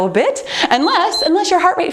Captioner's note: timer beeps